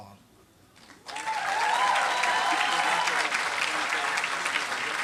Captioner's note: applause